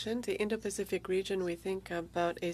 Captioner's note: speaking French